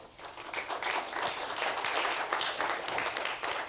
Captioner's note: applauding